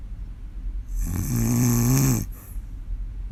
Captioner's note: more snoring